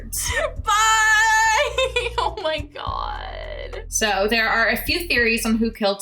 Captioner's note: laughs